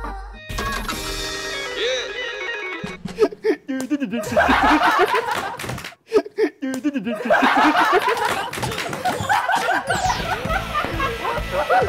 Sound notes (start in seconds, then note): 4.0 bursting out in laughter?